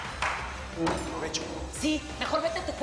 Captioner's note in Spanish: Aplausos